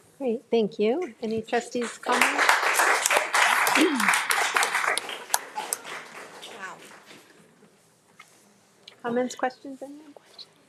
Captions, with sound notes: - Great, thank you. Any trustees comments? (audience applauds) Comments, questions anyone?